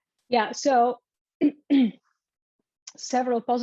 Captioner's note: clears throat